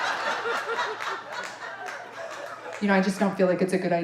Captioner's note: audience laughing